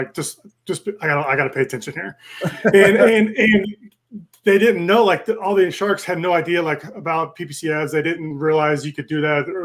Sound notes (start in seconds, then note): 2.3 laughs